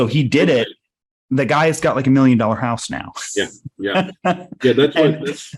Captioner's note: laughing